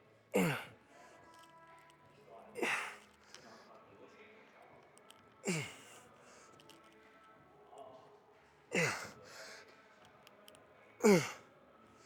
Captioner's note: grunting